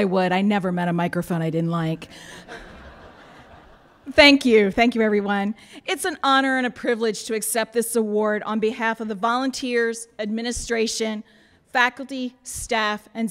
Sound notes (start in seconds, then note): 2.2 laughter